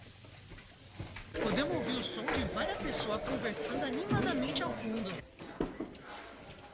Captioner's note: people chattering